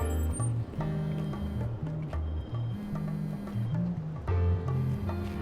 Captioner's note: cellphone buzzing